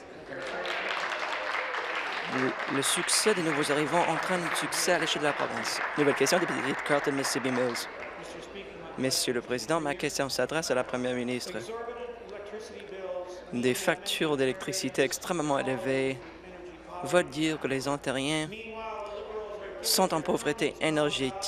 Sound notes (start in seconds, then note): 5.1 applause